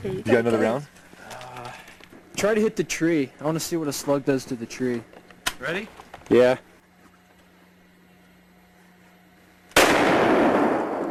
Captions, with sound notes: You got another round?” “Try to hit the tree. I want to see what a slug does to the tree." "Ready?" "Yeah.” [gunshot]